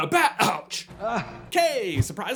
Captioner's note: Batgroan